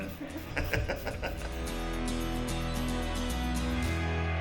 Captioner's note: laughter